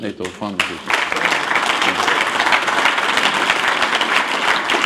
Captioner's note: applause